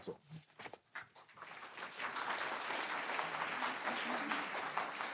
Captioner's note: audience applauding